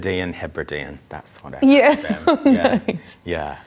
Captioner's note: laughs